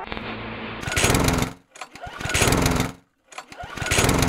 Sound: lawnmower starting

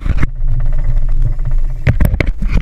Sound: spinning reel

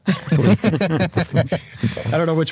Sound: group laughing

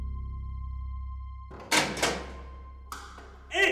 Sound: clicking

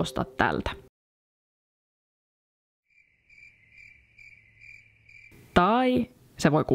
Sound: crickets chirping

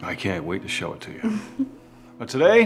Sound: Samantha giggles

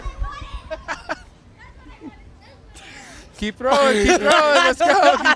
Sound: laughs

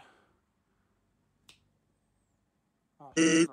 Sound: thanos snap

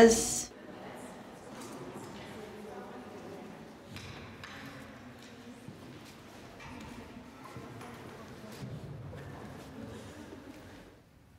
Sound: crowd noises and clinking plates

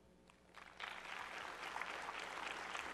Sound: applause

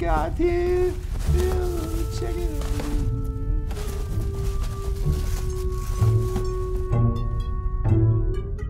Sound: the sound of rummaging through boxes

